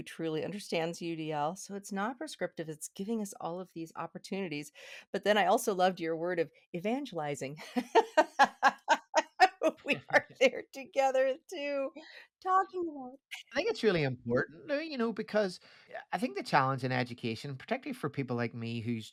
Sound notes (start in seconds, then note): 7.8 laughing